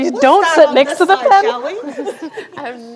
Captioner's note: laughter